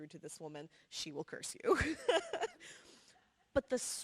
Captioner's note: laughs